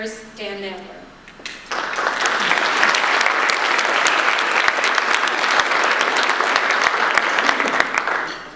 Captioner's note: audience applause